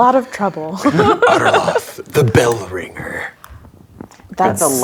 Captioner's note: low voice